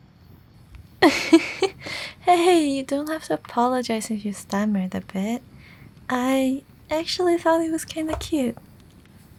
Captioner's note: chuckle